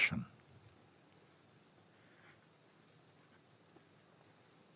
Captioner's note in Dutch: stilte